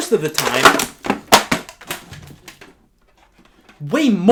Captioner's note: loud clatter